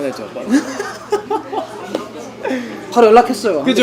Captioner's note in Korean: 웃음